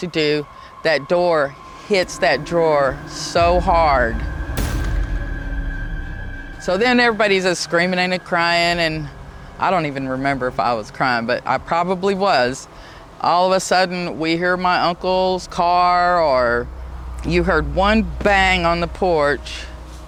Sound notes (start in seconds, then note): 3.9 door thudding; 3.9 suspenseful music